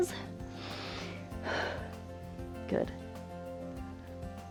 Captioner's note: inhales and exhales